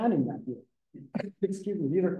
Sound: coughs

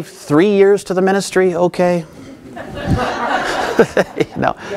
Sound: audience laughing

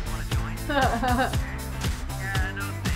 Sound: laughs; upbeat music

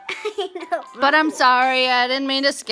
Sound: laughing

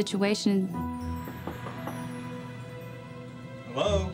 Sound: knocking

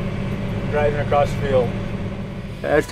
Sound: engine

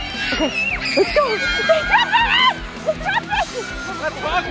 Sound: people shouting

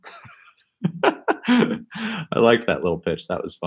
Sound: laughs

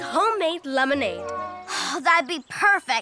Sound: cat meowing

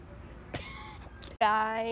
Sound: laughs

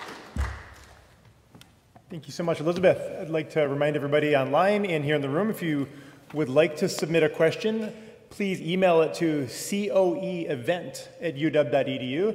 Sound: applause

